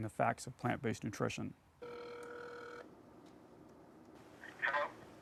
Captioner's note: phone ringing